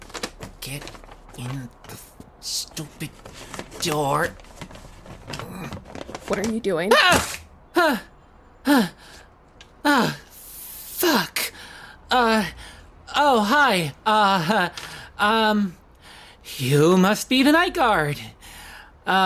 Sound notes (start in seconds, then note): 0.1 paper rubbing sounds; 7.0 tears paper; 7.8 light panting